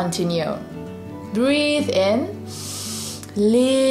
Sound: breathes in deeply

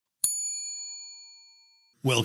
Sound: bell chimes

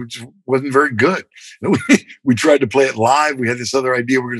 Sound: laughter

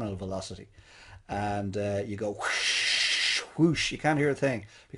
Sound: imitates air whooshing

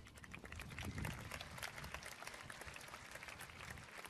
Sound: applause

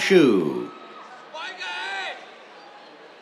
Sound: cheers

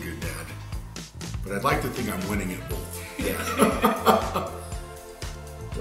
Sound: laughs

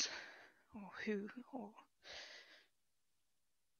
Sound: shaky breath

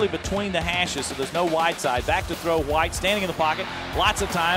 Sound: voiceover

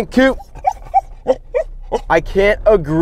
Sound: somewhat imitated panting sounds

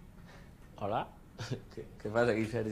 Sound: laughs

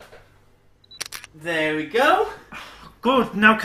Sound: camera snap sound

